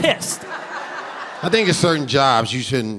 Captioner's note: audience laughing